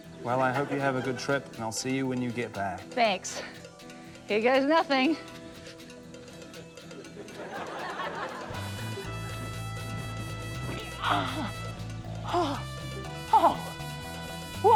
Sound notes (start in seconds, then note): 6.9 laughter; 8.4 spaghetti western music continues; 10.9 grunts, pants